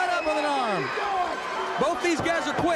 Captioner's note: crowd cheering